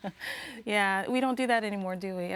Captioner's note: host laughs